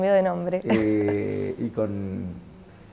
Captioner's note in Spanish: risas